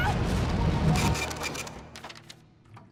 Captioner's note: printer sounds